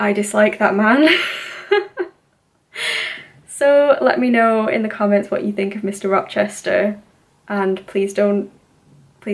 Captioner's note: laughs